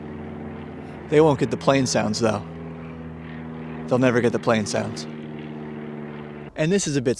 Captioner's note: plane sounds